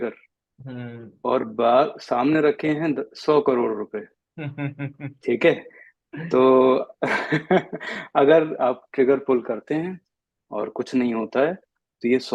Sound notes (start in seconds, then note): 7.0 laughs